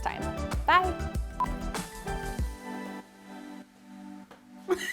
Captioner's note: signal beeps